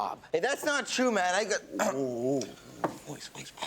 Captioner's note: coughs